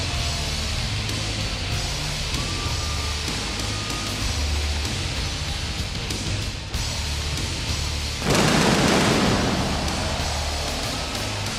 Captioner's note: applause